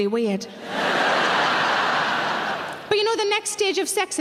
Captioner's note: audience laughing